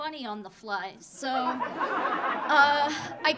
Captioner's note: audience laughing